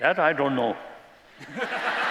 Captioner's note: laughter